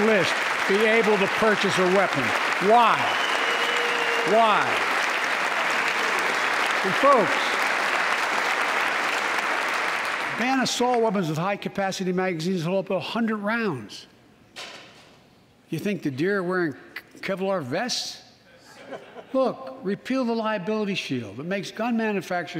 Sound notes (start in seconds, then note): 7.9 applause